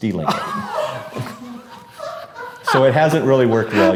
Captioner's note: laughing